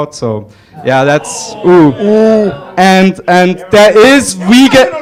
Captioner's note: audience jeering